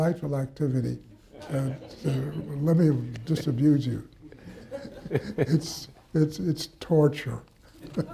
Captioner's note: laughter